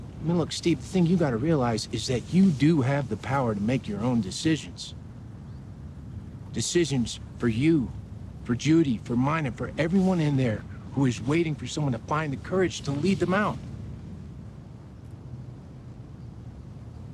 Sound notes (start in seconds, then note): none